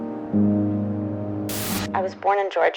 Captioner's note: static hissing